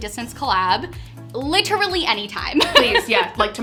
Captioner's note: laughs